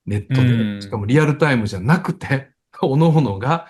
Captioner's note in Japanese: 咳払い